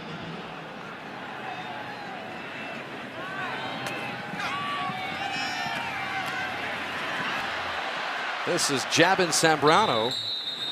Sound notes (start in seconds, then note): 8.2 cheering